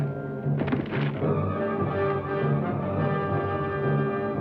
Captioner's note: distant thuds